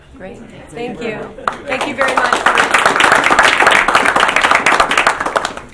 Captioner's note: applause